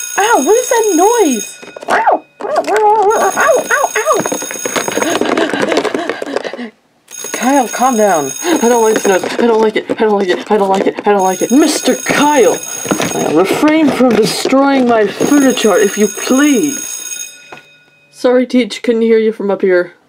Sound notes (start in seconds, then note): 2.4 Kyle meowing in panic; 4.9 Kyle hyperventilating